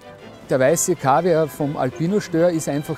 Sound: symphonic music; speaking foreign language

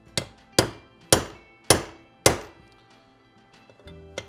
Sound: hammer tapping

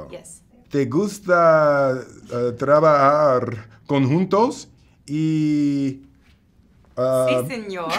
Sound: spanish

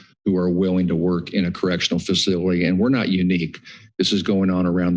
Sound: none

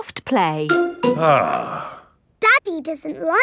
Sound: sighs

